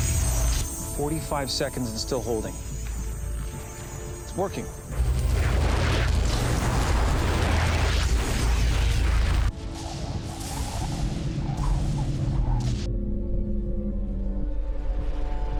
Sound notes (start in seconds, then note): 9.3 zapping intensifies